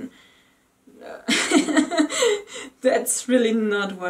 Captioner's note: laughs